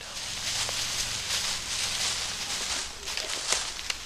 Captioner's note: leaves crunching